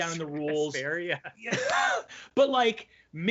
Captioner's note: chuckles